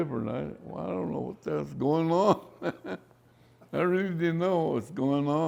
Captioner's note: laughs